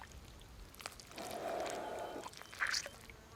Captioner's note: inhales